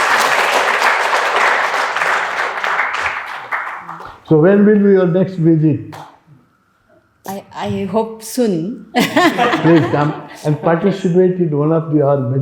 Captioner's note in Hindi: तालियाँ